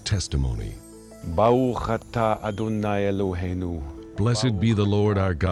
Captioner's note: speaking Hebrew